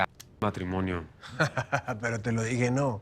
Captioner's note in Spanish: Risas